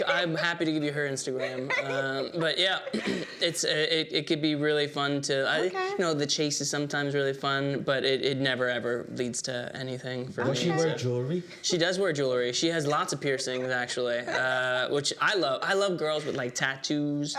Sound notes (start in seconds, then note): 2.9 clears throat